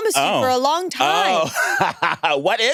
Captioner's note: laughs